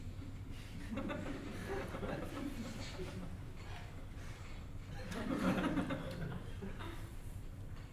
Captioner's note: audience: Laughter